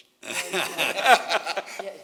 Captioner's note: laughter